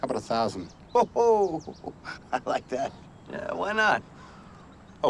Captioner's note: laughs